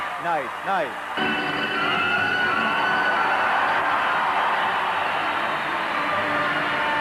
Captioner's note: crowd cheering; intense orchestral music